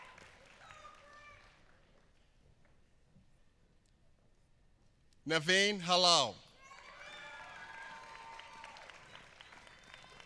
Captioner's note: applause